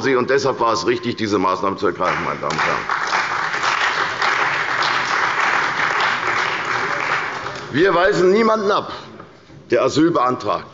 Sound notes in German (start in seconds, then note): 4.8 Beifall bei der CDU